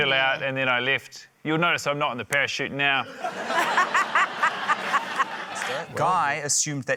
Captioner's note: laughter